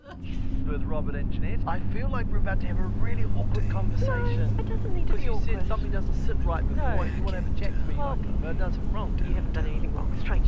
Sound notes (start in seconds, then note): 1.1 man On Radio; 4.8 woman On Radio; 5.8 man On Radio; 9.3 woman On Radio